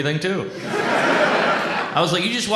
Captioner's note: audience laughs